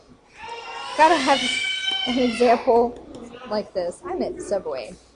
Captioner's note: baby screams